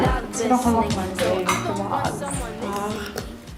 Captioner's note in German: Stimmengewirr